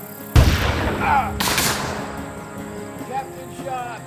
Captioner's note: gunshots booming